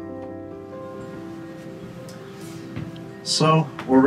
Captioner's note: fan blowing